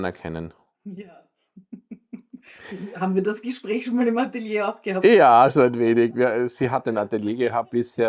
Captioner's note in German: gelächter